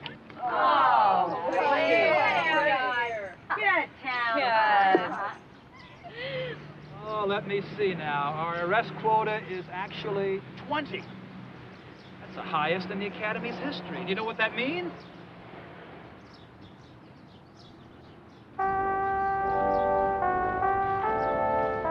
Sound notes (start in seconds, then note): 0.7 groaning